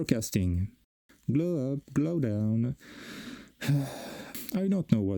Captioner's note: breath